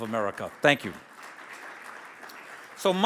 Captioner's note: audience applauds